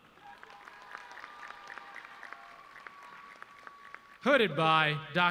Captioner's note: audience cheering